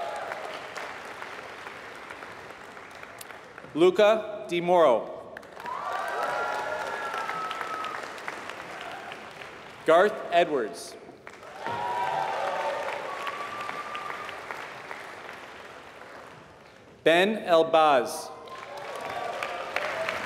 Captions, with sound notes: >> [APPLAUSE] >> Luca Di Mauro. >> [APPLAUSE] >> Garth Edwards. >> [APPLAUSE] >> Ben Albaz.